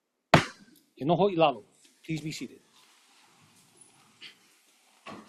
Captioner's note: gavel bangs once